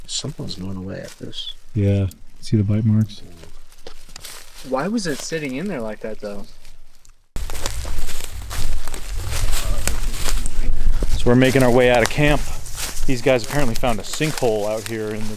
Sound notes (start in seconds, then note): 7.8 footsteps pattering; 7.8 leaves rustling